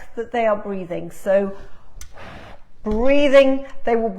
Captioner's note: blows